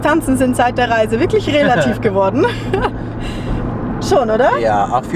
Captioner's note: laughs